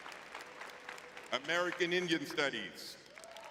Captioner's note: audience clapping